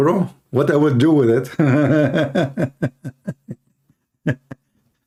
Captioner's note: Ketawa